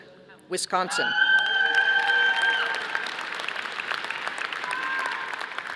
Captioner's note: audience applauding